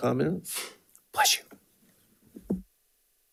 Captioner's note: board Member sneezing